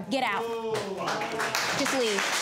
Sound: audience applauding

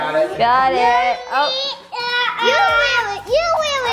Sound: babbling

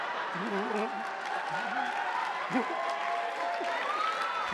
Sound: attendees applauding

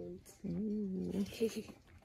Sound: growls

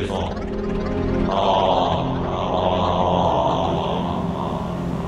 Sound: gargling

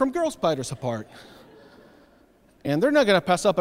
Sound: audience laughs

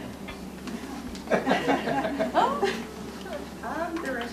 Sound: audience laughs

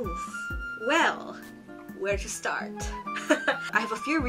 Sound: laughs

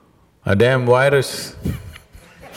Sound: laughter

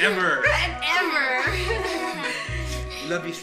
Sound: Ethel chuckling

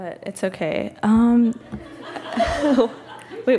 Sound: laughs

